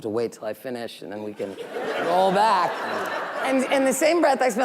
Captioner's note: audience laughing